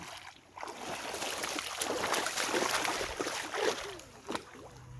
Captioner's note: water splashing